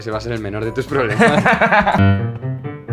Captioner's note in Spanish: Risas